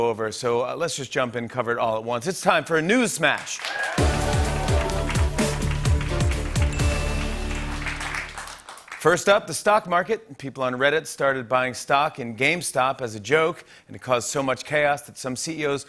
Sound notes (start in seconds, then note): 3.5 cheers and applause; 6.7 ding